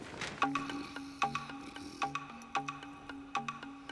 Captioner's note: snoring